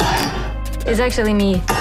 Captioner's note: tinny gasp